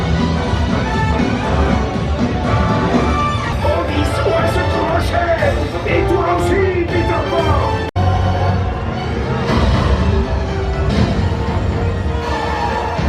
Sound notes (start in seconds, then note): 4.2 Captain Hook speaking French; 8.4 upbeat dramatic music